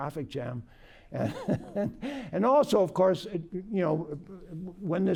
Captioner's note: laughter